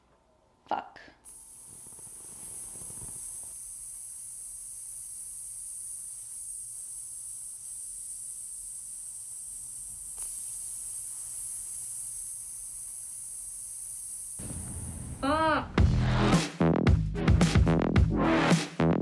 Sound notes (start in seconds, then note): 1.6 air hissing; 10.3 air continues hissing; 15.3 upbeat music